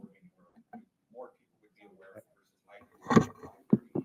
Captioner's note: speaking faintly